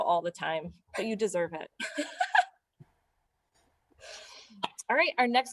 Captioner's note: laughter